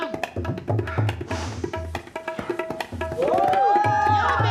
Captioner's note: inhales sharply; women cheering